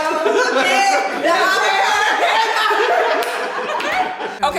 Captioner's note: everyone laughing